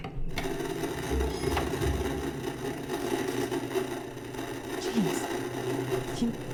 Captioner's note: VCR whirs; static buzzing; object creaks upstairs